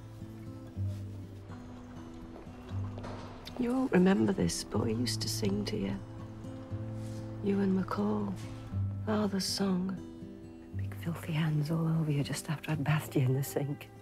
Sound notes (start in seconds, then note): none